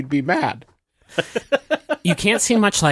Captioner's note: laughs